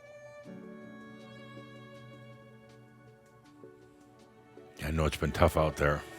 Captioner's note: longer pause